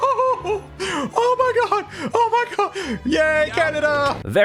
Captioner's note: hollers